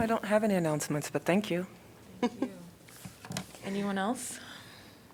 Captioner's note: laughter